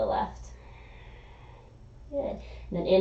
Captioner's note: exhaling